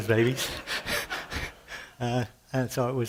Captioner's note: laughter